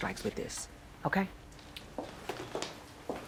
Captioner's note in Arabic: خطوات